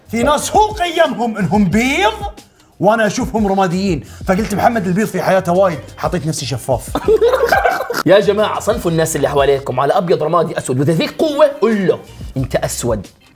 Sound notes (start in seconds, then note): 6.9 laughter